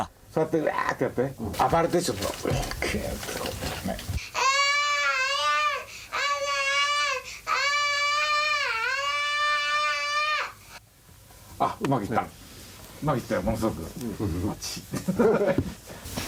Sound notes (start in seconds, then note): 4.1 moaning